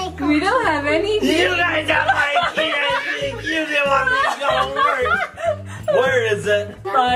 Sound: grunts

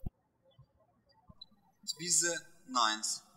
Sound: birds chirping

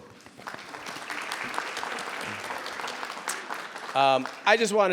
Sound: people applauding

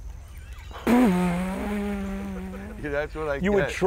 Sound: laughing

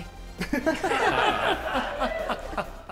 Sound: laughter

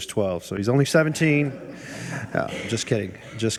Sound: people chuckle

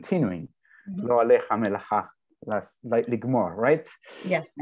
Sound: speaking in hebrew

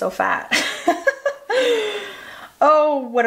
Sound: laughs

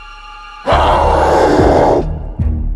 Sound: growls

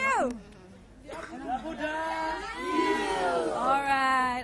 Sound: cheering

